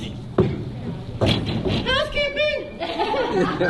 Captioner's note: knocking on door